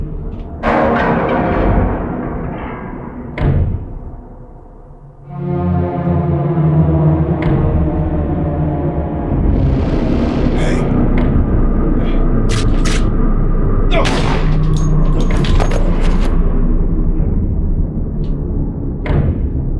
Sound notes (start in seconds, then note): 12.5 gun cocks; 13.9 gun fires